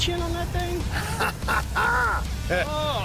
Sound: laughs

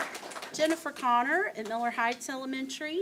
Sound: applause

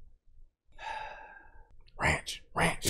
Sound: sigh

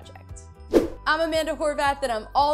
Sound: air swooshing

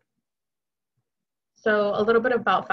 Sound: silence

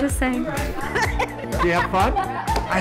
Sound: girl laughs

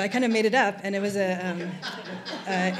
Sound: laughter

